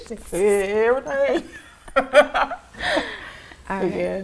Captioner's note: laughs